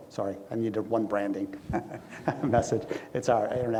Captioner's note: laughs